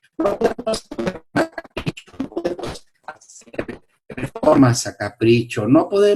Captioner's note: audio error